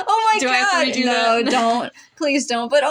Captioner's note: chuckle